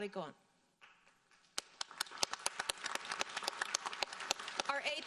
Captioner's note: audience applauding